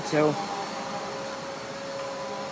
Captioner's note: vacuum continues